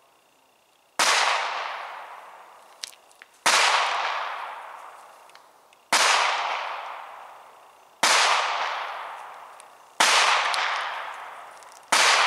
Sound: gunshots on range #2

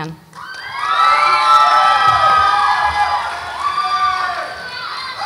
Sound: audience applauds and cheers

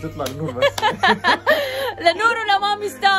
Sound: laughing

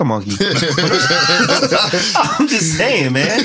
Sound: laughing

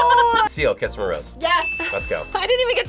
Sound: audio dings

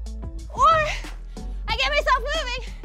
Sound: breathless

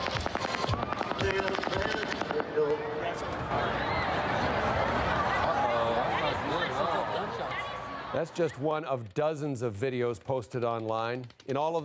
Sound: gunshots

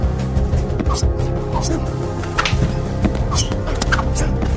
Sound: knife slashing

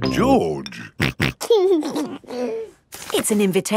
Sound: snorting and giggling

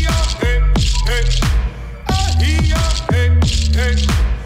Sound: foreign vocalizing

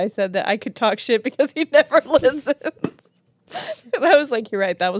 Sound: laughs; hand thuds

